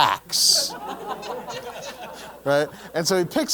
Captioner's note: laugh